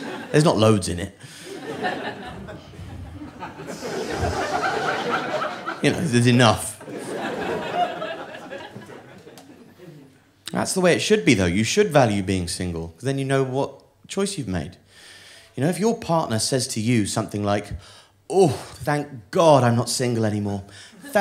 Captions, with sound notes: There's not loads in it. [audience laughing] You know, there's enough. That's the way it should be, though. You should value being single, 'cause then you know what choice you've made. You know, if your partner says to you something like, "Oh, thank God I'm not single anymore.